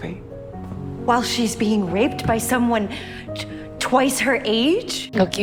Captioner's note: voiceover